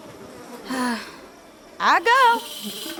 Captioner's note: sighs